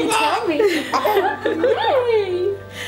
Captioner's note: laugh